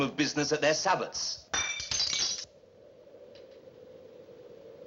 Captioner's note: glass Breaks